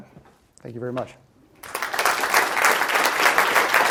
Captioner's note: applause